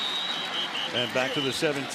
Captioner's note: whistles